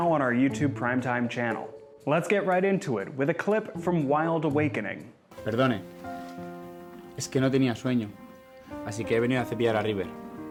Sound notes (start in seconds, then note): 5.3 characters speaking in foreign language; 5.3 thoughtful piano music